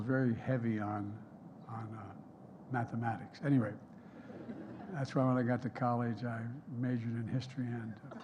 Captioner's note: laughter